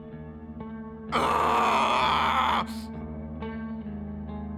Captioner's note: screaming